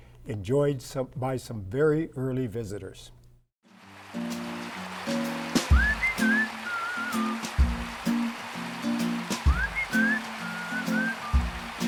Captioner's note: whistling